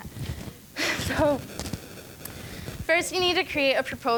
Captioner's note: laughing